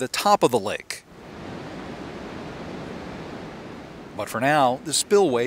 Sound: water rushing

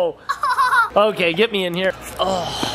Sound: laughs

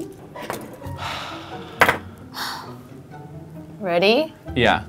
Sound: exhale

